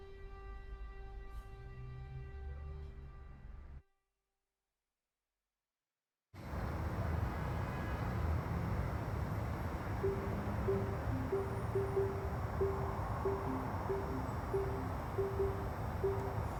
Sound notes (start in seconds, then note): 7.0 city ambiance